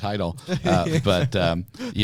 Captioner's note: laughter